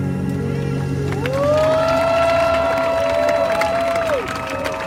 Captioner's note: crowd cheering